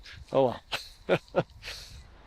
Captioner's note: chuckling